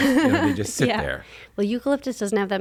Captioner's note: laughs